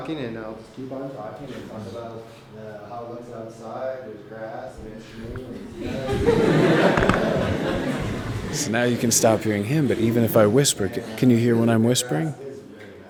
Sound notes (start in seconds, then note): 6.4 laughing